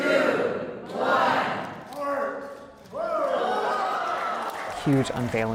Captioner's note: cheers and applause